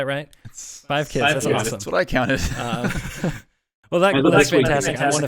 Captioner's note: drowned by laughter